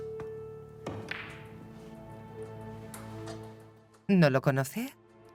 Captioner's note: balls clacking